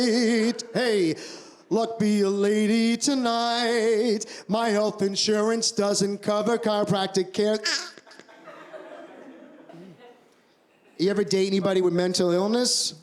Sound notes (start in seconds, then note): 7.7 laughter; 7.9 squeaks